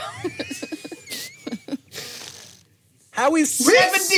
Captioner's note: laughs